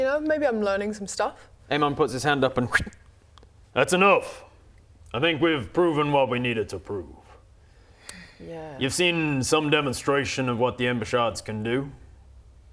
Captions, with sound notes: You know, maybe I'm learning some stuff Aemon puts his hand up and *fwip* That's enough I think we've proven what we needed to prove You've seen some demonstration of what the ember shards can do